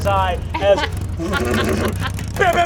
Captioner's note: motorcycle revs engine